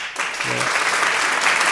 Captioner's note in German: Applaus